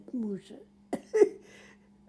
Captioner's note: laughing